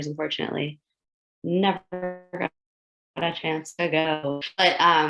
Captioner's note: audio glitches